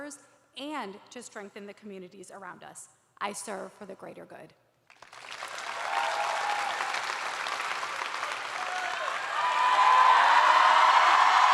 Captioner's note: cheers and applause